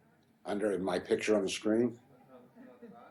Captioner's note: voiceover